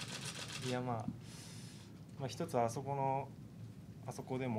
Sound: speaking Japanese

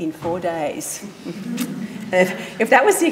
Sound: audience laughing

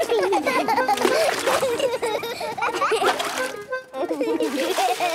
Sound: excited laughter

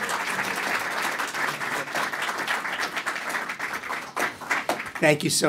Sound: applause

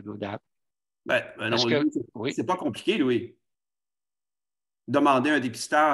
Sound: speaking foreign language

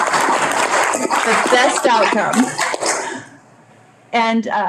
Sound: audience clapping

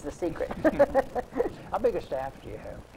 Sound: laughs

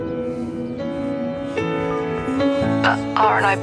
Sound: birds twitter; beep

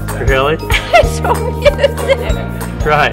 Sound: laughs

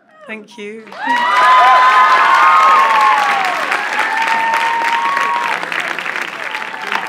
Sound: crowd cheers

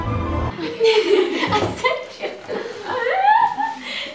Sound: both laugh

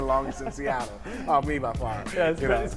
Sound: laughter

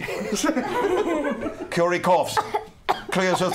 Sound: coughing

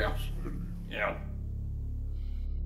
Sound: mocking

